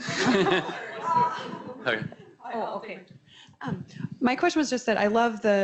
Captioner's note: audience laughs